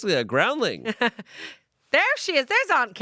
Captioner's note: laughs